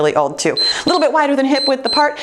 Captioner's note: timer beeps